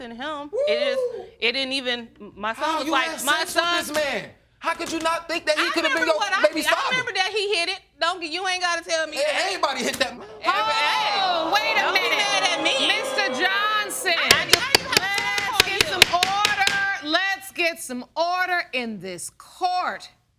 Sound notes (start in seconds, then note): 10.1 audience exclaiming; 12.4 gavel pounding